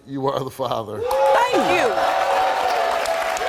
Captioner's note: audience cheering